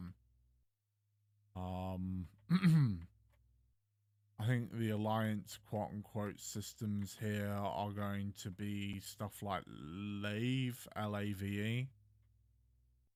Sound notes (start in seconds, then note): 2.4 clears throat